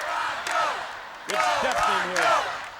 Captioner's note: crowd cheering